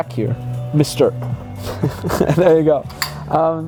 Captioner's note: laughing